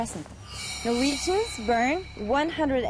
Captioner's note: chimes